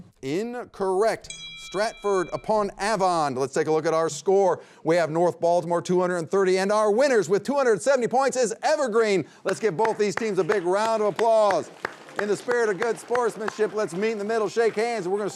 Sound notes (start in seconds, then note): 11.8 all applauding